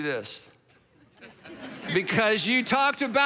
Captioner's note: congregation laughs